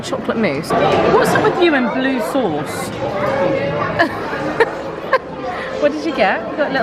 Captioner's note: laughing